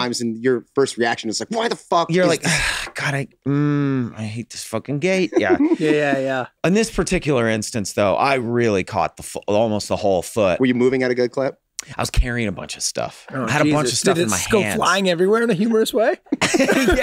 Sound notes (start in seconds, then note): 2.3 sighs; 5.2 Rob giggles; 16.2 group laughs